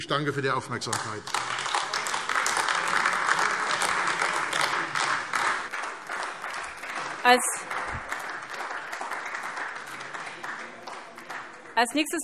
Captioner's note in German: Beifall AfD